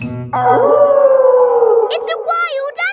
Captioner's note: wolf howling loudly